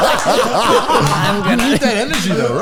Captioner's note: all laughing